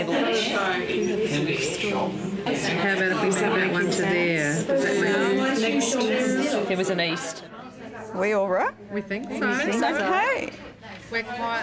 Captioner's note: audience chatter